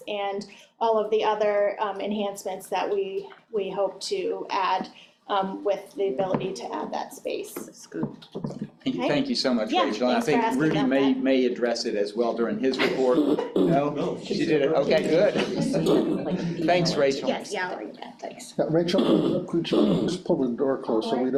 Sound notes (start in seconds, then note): 16.5 all chattering